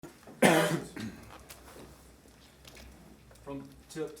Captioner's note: coughing